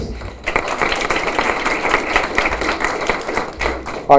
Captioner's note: applause